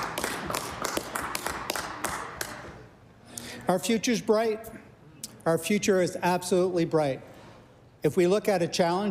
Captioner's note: applause